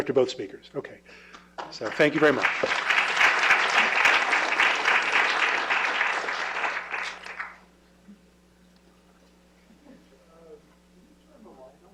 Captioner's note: applause